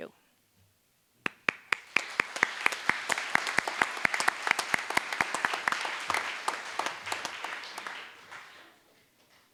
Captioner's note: applause